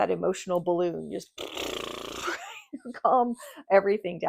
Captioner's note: imitates balloon sputtering